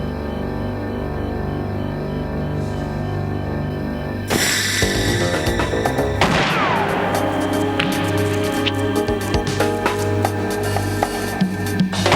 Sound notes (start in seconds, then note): 4.5 tense music; 6.2 gunshot